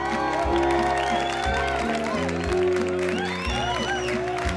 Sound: cheering

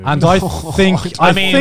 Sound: groaning

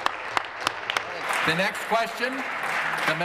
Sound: applause

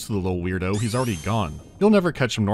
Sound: zoom

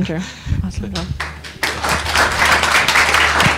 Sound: applause

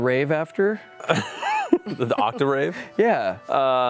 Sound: laughing

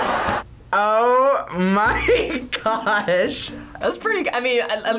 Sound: laughs

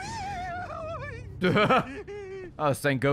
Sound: laughs

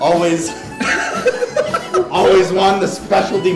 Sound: laughing

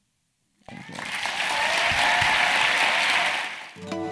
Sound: applause

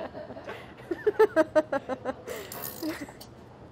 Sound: laughing

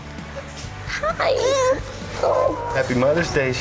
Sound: cooing

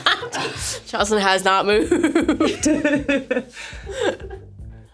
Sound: laughing; laughs

